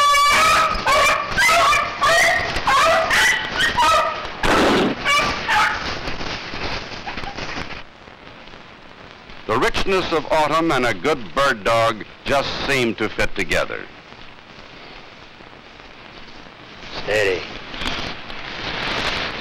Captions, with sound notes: (gunshot) >> The richness of autumn and a good bird dog just seem to fit together. >> Stay.